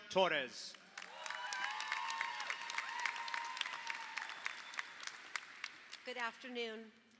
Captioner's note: audience applauds; audience cheers